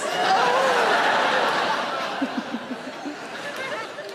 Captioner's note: audience laughing